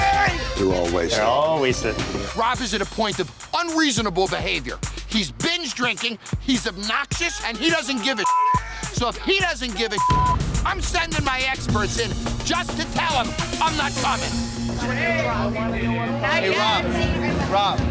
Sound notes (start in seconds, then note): 8.2 beep; 8.5 yelling drunkenly; 10.0 beep; 14.7 dramatic music continues; 15.4 bar patrons chattering loudly